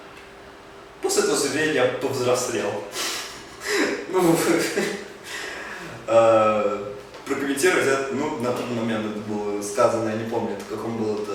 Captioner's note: laughs